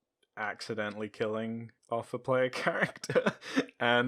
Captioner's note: laughs